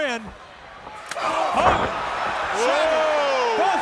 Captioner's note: body slams